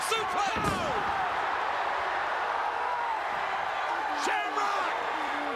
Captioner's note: crowd cheers